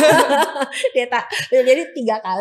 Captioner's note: laughs